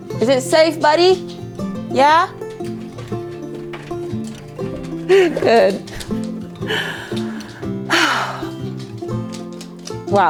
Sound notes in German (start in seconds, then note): 2.8 Pfoten klappern; 6.6 seufzt